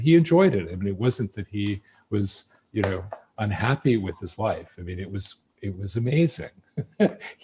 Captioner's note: laughs